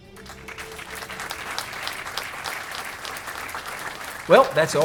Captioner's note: applause